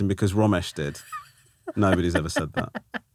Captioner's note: laughing